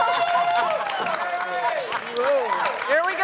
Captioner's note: audience cheering